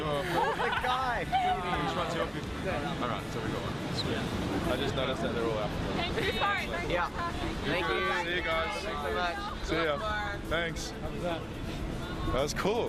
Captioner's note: laughter